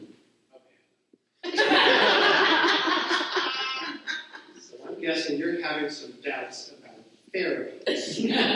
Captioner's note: laughter